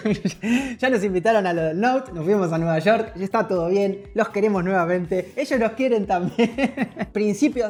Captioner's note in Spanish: risas